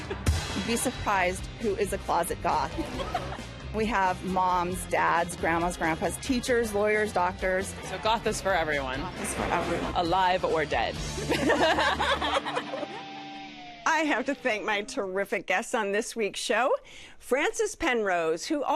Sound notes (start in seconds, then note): 11.2 laughter